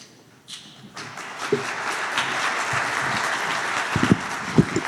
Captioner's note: applause